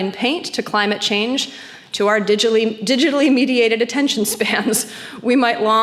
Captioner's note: chuckles